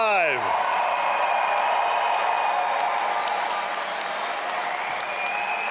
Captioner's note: all applauding and cheering